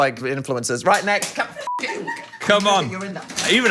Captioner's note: beep